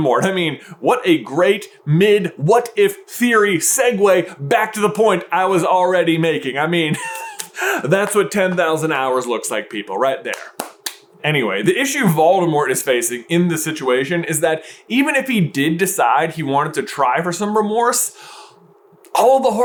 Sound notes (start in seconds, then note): 6.9 laughs